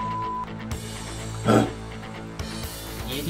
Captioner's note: roar